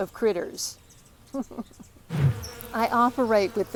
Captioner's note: bees buzzing